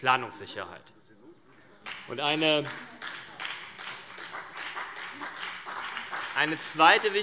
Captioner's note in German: Beifall BÜNDNIS 90/DIE GRÜNEN und vereinzelt CDU